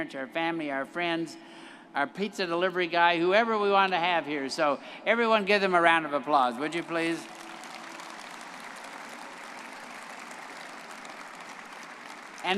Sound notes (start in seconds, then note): 8.8 all clapping